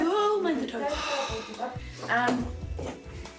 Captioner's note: sighs